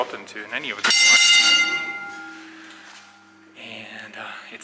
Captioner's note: bell dings